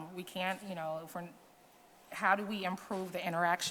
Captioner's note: none